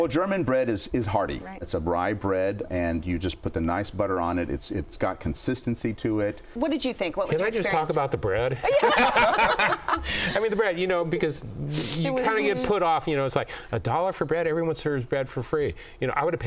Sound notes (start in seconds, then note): 8.6 laughing